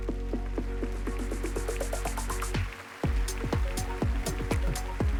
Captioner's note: applause